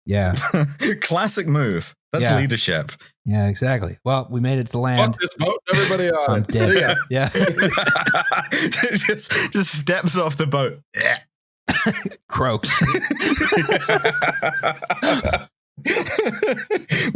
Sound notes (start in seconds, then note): 0.3 laughs; 6.4 laughter; 9.1 laughing; 10.9 choking sound; 12.6 laughter; 12.6 laughs